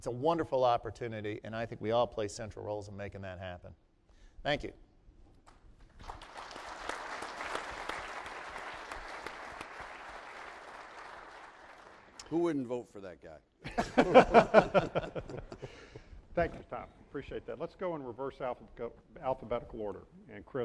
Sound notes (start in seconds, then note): 5.8 applause; 13.7 laughs